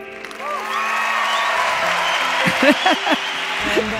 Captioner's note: audience applause